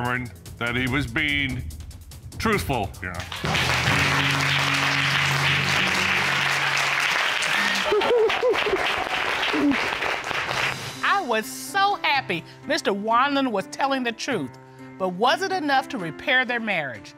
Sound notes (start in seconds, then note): 3.2 applause; 7.3 laughs